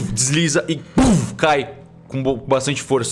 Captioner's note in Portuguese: pumf